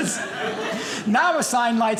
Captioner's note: audience laughing